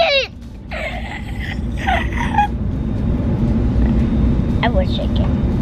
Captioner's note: gasping dramatically